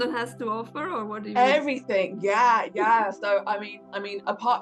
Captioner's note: laughing